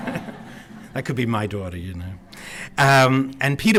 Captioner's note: laughter